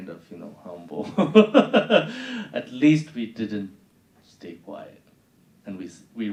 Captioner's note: laughing